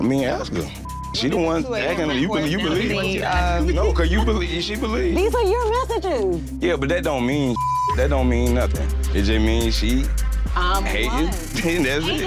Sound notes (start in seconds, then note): 0.4 beep; 7.5 beep